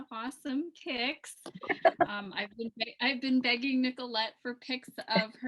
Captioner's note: laughs